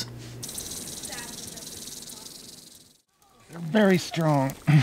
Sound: snake rattles

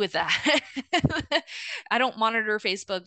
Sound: laughing

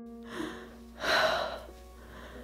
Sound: sighs

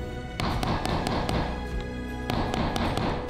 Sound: hammering

